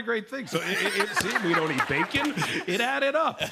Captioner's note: laughter